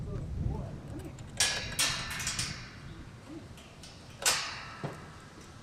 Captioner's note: gate clanking